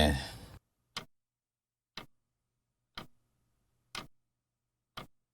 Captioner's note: clock Ticking